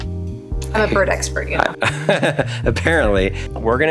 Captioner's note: laughs